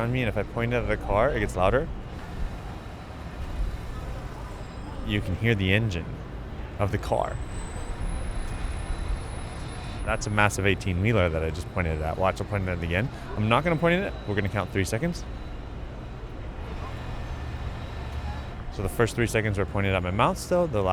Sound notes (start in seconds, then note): 4.4 engine rumbling; 8.2 brakes whistling; 16.9 engine humming